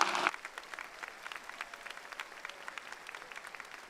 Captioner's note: audience applauds